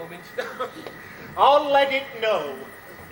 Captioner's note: laughs